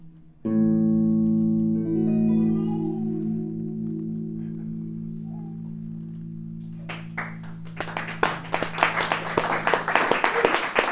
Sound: applause

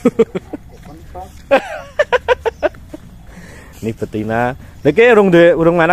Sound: laughs

